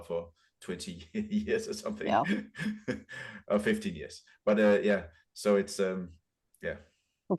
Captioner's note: laughs